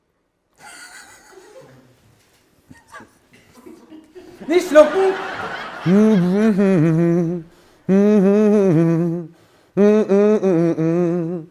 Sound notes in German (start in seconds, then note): 0.6 Ersticktes Kichern; 3.3 Lachen im Hintergrund